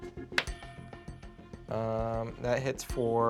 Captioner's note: rolls dice